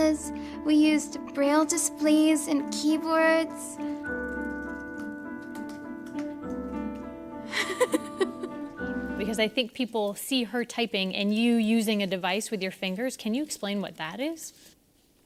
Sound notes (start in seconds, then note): 4.0 clicks on keyboard; 7.5 Haben laughs